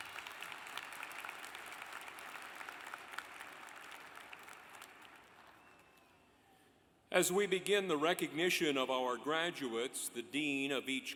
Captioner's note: applause